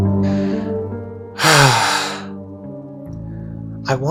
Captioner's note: sigh